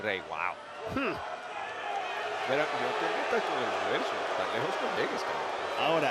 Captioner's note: applause